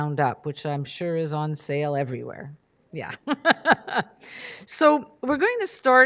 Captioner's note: laughs